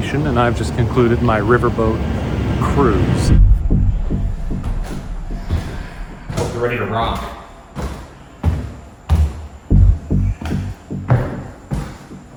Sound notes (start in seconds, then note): 3.3 low pensive music; 4.8 footsteps creaking; 7.9 footsteps ascending